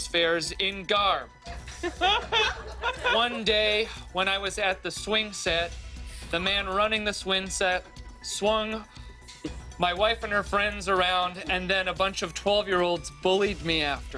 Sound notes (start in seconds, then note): 1.5 laughter